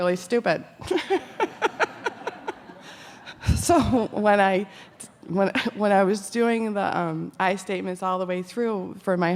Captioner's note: laughing